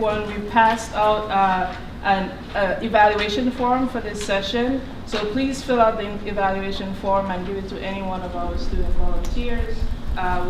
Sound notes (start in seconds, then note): none